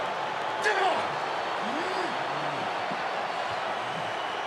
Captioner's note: Edge grunts